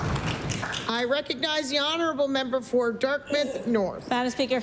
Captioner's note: applause